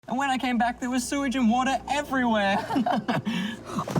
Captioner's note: laughter